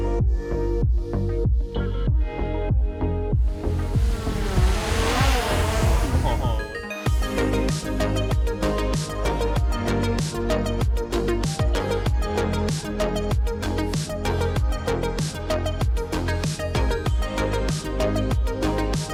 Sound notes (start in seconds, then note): 3.4 drone whirring